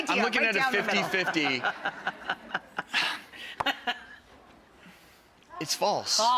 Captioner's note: laughter